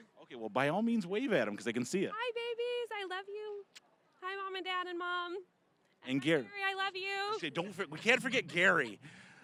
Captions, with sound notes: >> Okay, well, by all means, wave at 'em, 'cause they can see you! >> Hi, babies! I love you! (kissing) Hi, Mom and Dad and Mom! >> And Gary! >> And Gary-- I love you! >> Say, "Don't forget-- we can't forget Gary!"